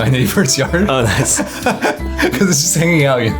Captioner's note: laughing